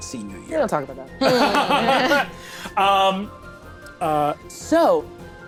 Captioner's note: all laughing